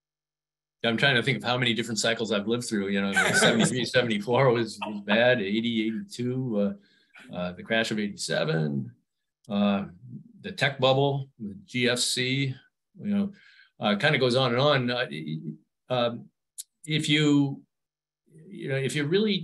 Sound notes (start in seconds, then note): 3.1 laughs